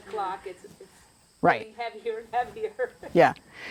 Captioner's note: laughter